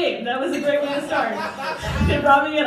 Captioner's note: crowd Laughing